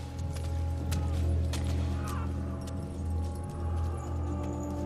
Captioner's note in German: Männer stöhnen